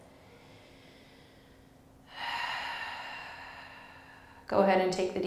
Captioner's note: heavy breathing